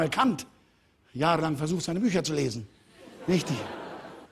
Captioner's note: Lachen des Publikums